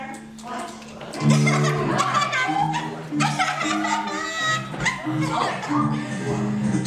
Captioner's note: Evil laugh of JUNKO ENOSHIMA